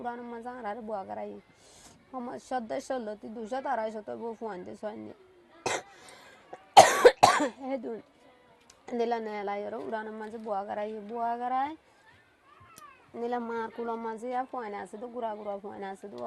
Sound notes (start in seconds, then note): 6.7 coughs